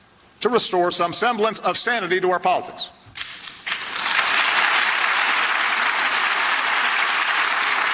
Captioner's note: applause